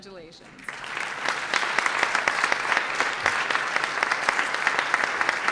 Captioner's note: audience applauds